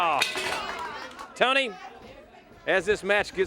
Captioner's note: bell ringing